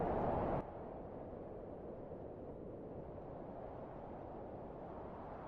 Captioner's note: the howling wind muffles